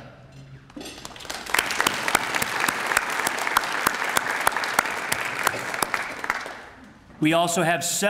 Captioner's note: applause